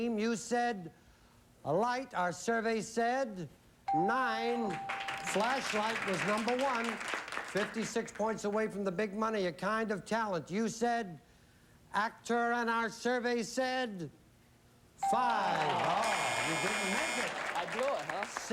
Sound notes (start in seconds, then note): 15.5 audience groans